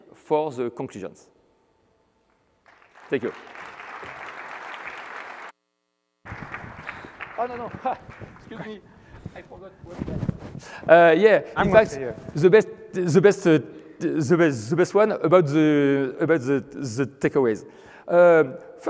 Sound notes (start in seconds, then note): 2.6 applause